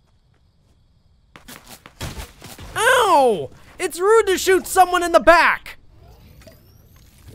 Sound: none

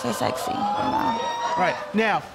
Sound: audience exclaiming

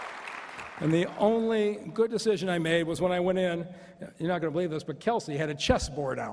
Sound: cheers and applause

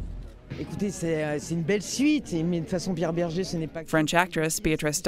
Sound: speaking in French

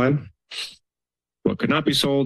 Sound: sniffs

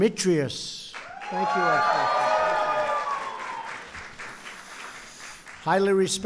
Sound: applause

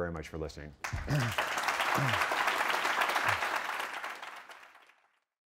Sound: applause

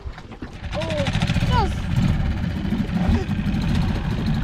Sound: dinghy motor

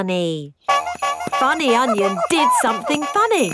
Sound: shoes honking

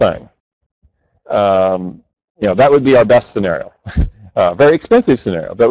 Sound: chuckles

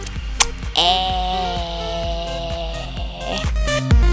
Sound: groan

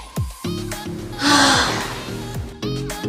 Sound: light music; sighs; light music

